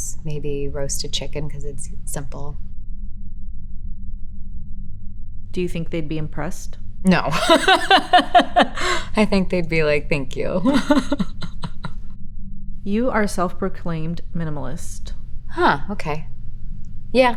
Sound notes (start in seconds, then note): 7.2 Elizabeth laughs